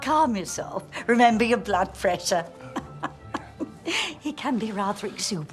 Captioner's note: laughing